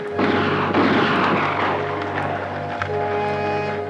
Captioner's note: Apaches howl; gun fires